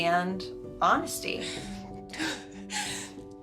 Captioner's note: crying